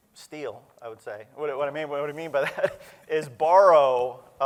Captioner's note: laughter